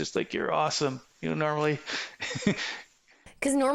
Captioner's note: laughing